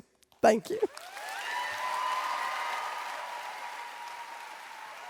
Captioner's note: audience cheers